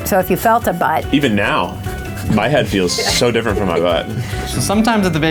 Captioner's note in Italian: ride